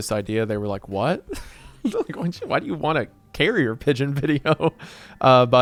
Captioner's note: laughs